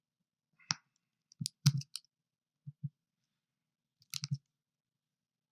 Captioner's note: mouse clicking